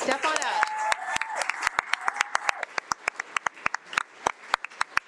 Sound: audience clapping

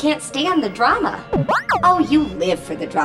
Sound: beeping

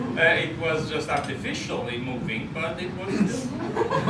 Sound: laughter

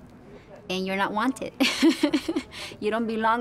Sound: laughing

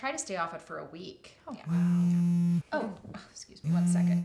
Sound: Molly's phone vibrates

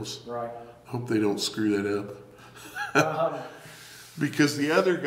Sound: laughs

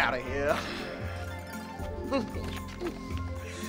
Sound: laughs

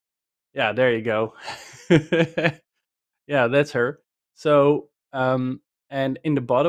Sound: laughs

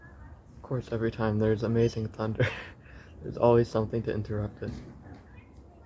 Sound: laughs

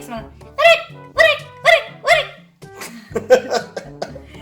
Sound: frog sound; laughs

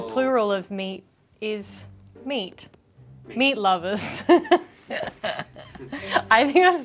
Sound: laughs

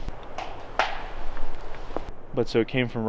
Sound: wood tapping

